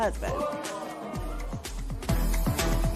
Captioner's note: spectators murmur